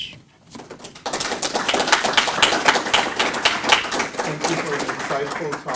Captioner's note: audience applauding